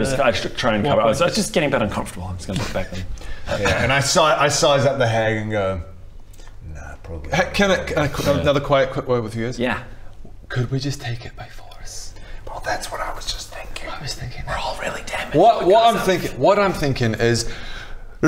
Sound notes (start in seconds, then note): none